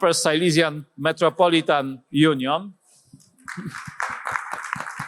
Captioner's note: applause